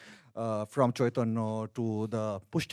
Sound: speaks in a foreign language

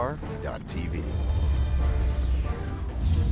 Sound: voiceover

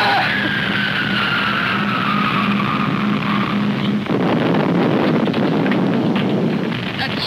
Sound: artillery shells whirring and exploding

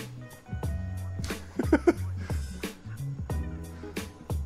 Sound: laughing

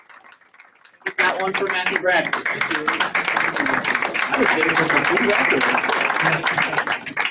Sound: applause

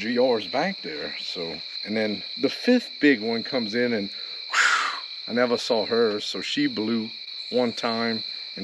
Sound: wheeze

